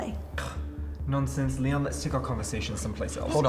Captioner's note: scoffs